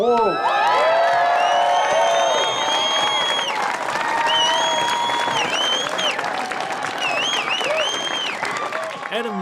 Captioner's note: crowd cheers loudly